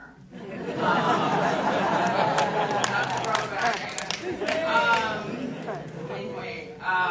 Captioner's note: audience laughing